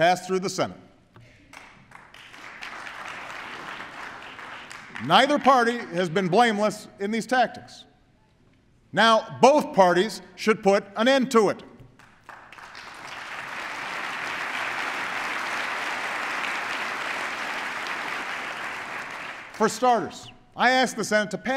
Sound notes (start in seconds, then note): 1.5 applause; 11.9 applause